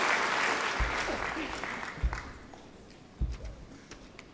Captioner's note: applause